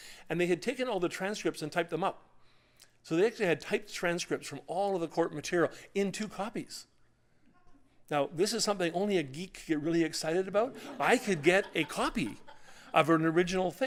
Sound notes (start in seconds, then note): 10.6 laughter